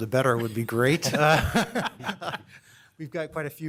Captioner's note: laughter